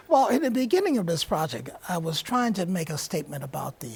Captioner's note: laughs